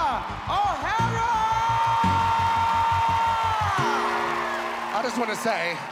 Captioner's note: cheering